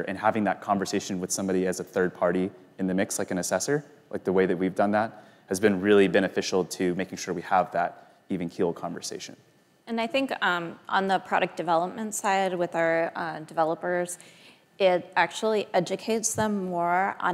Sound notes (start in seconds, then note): none